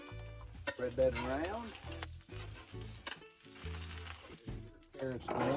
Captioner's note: griddle sizzling